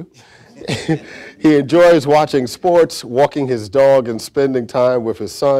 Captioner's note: chuckles